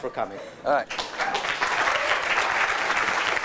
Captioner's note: applause